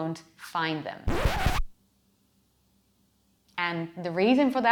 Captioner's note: record scratching